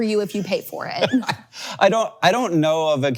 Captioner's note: laughs